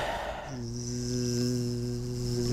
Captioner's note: more imitation propeller noise